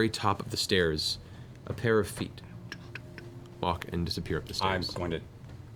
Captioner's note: footsteps